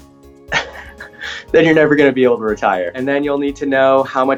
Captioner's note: chuckling